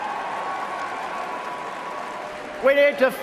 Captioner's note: applause